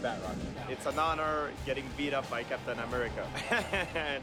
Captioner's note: chuckles